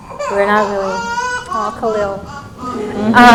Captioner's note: baby crying